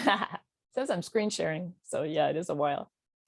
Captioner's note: laughs